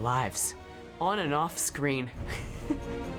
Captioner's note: laughs